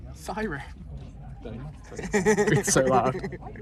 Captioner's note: laughs